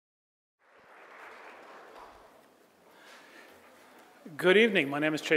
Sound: audience applauds

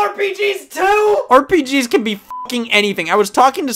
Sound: beep

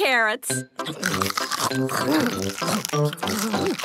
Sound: crunch

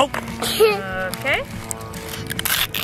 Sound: laughs

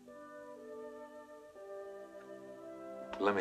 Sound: none

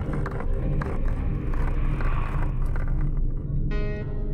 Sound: suspenseful music; scratching

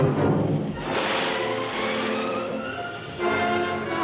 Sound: water Splashes

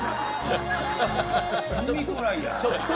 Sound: roars with laughter

